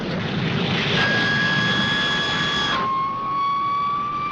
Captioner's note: engine whirring